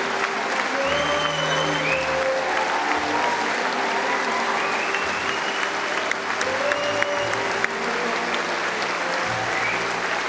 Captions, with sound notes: That's how, solidarity." (Applause)